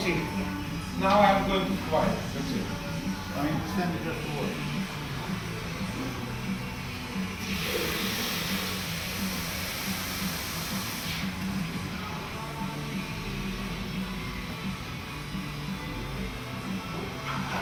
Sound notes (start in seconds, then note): 5.4 muffled rock music; 7.7 machinery humming